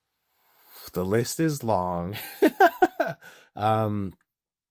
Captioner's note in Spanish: Riendo